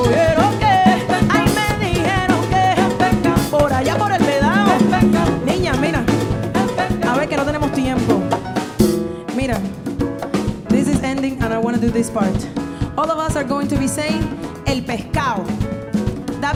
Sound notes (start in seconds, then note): 6.2 speaking in Spanish; 14.7 speaking in Spanish language